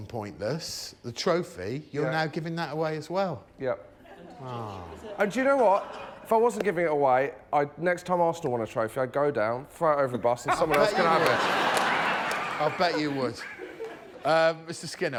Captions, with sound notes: but this represents the greatest achievement of my life. It is the trophy I won when I won on Pointless. [audience wows] -Wow. -[laughter] The whole set up for that is so we know Josh won Pointless.